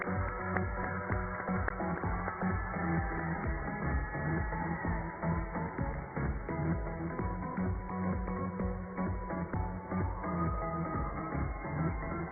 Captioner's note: cheers and applause